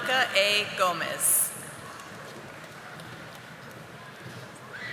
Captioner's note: audience applauding